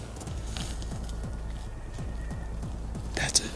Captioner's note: bull elk bugle